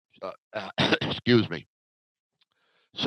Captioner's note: coughing